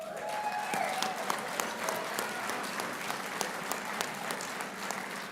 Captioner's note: applauding and cheering